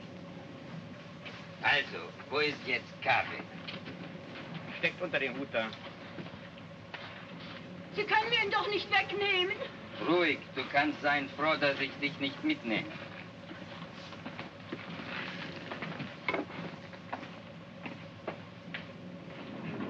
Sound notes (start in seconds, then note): 1.5 speaking in Russian; 7.9 speaking in German; 9.9 speaking in Russian